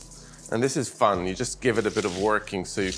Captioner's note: kale crunching